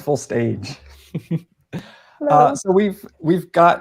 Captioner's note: laughing